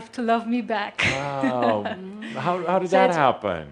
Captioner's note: she giggles